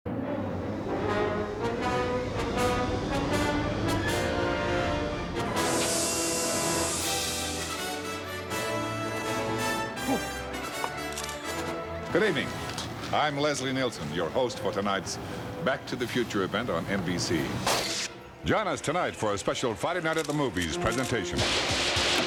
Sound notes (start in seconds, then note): 5.3 hissing; 10.8 shutter clicks